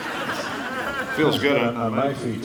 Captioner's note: crowd laughing